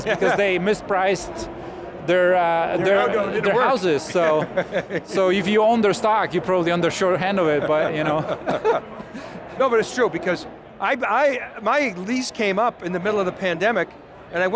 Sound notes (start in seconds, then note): 7.6 both chuckling